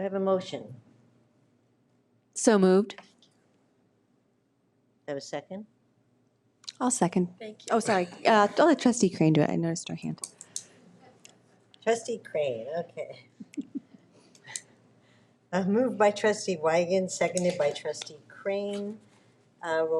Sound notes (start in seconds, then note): 7.8 woman speaks faintly; 13.3 person chuckling